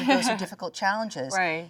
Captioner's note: Jung laughs